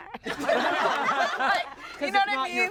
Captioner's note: everyone laughs